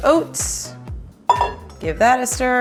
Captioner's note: metal clanks